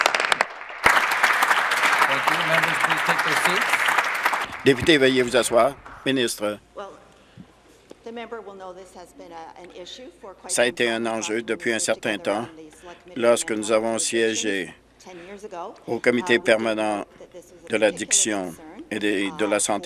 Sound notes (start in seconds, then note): 3.3 applause